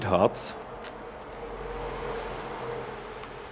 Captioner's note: distant street noise